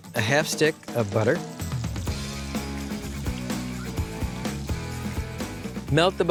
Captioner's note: soft sizzling